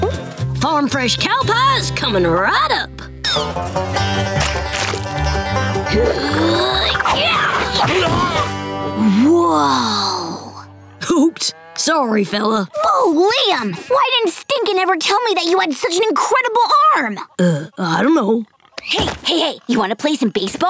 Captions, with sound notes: Farm fresh cow pies, coming right up! [grunting] Whoa. Oops. Sorry, fella. Whoa, Liam! Why didn't Stinkin' ever tell me that you had such an incredible arm?! Uh, I dunno. Hey, hey, hey. You wanna play some baseball?